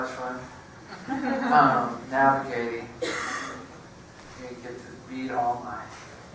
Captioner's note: laugh